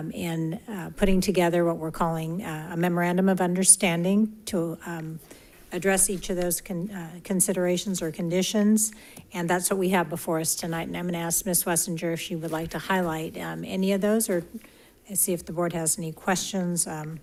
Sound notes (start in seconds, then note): none